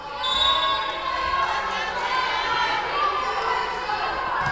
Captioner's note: whistle blowing